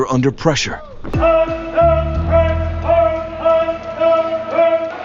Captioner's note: trainer shouting